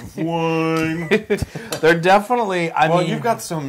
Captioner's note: laugh